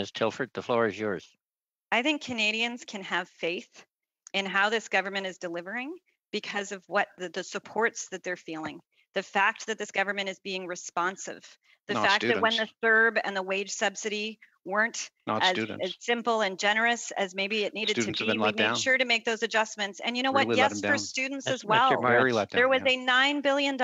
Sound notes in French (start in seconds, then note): 12.1 voix de l'interprète